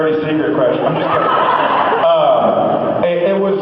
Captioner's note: laughs